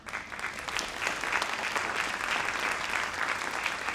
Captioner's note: audience clapping